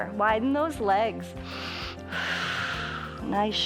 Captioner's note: inhales and exhales